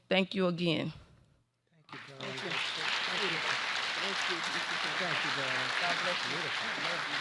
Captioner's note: applause